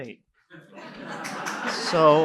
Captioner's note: laughter